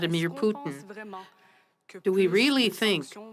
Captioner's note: speaking French